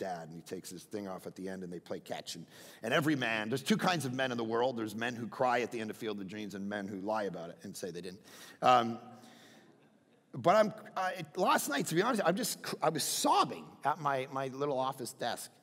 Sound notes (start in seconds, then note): 9.1 crowd laughing